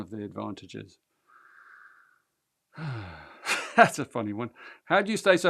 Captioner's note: laughs